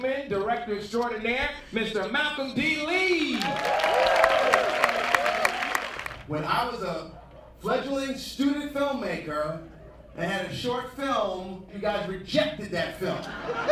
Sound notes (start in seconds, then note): 3.2 applauding and cheering; 13.4 laughing